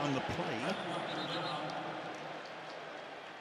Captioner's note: whistle